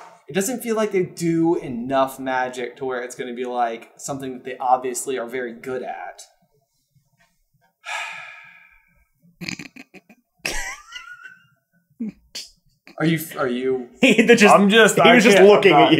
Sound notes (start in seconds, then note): 7.8 heavy sigh; 9.4 snorting and giggling in background